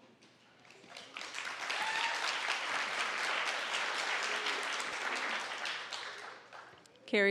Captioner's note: applause